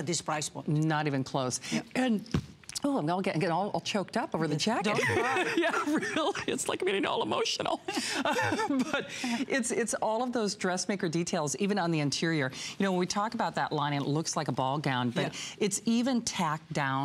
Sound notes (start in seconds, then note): 4.9 coughing; 7.9 coughing